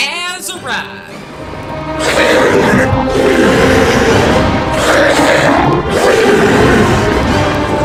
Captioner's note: monster growling and roaring; dramatic music